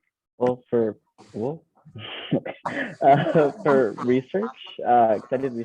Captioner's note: laughing